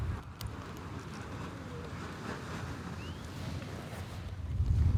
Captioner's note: wind rustling